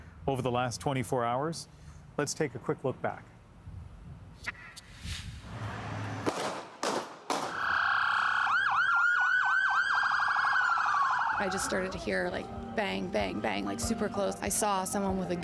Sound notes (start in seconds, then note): 7.5 sirens; 7.7 gunshots